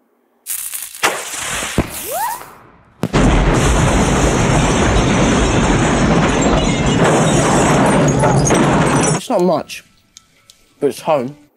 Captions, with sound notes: [firework sizzling and whizzing] [MUCH BOOM] It's not much, but it's home.